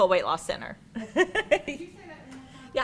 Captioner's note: laughs